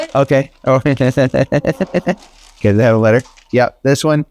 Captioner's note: laughs